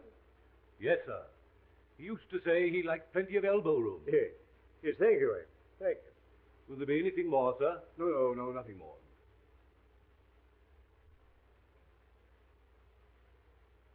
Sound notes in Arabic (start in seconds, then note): none